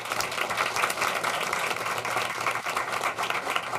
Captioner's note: applause